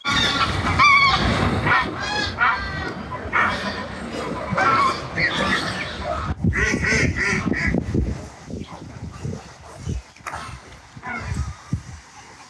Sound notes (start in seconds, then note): 0.0 geese Honking; 6.5 ducks Quacking